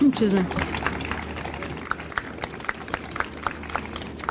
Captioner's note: audience applauds